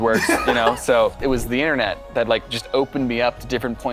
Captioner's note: laughter